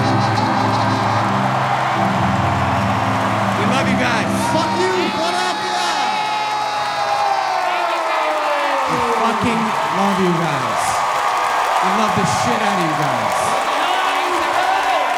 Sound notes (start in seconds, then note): 0.7 audience cheering